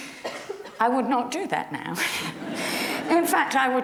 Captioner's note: giggles; audience laughs